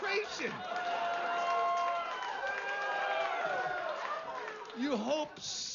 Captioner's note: vítores y aplausos